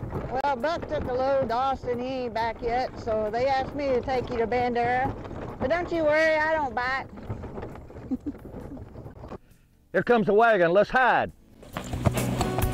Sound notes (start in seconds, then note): 7.9 chuckles